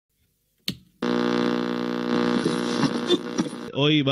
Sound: power click - static

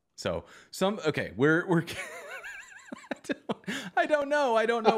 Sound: laughter

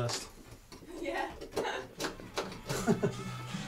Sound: laughs

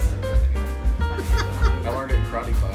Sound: board member laughing

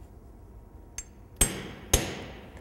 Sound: hammer hitting iron; hammer and iron hitting table

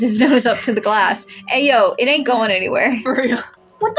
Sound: chuckle

